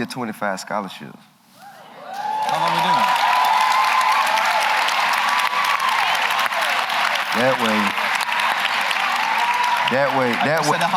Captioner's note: applause